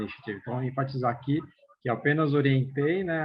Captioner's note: non-english